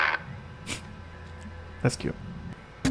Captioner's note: snort